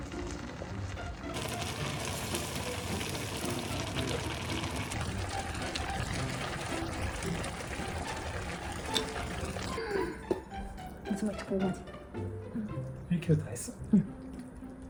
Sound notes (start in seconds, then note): 0.0 bubbly ASMR